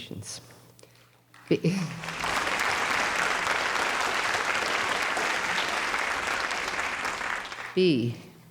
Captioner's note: audience applauds